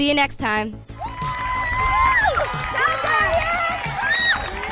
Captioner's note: cheering and clapping